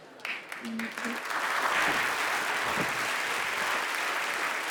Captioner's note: audience applauding